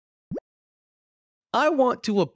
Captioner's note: bubble popping sound